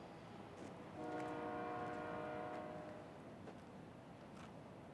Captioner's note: train horn honking